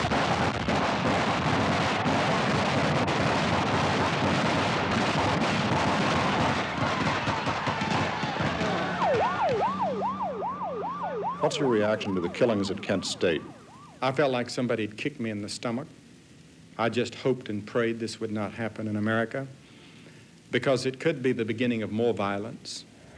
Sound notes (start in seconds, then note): 0.0 gunshots; 6.2 gunfire; 8.5 siren